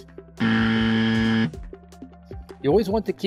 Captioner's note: buzzer